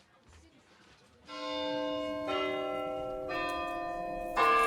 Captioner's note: bells ringing